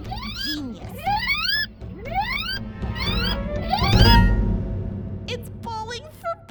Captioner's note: were-hamster screeching